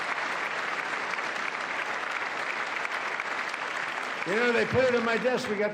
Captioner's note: applause